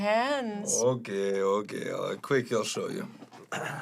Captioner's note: throat clears